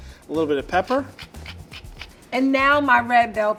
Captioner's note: shaker grinding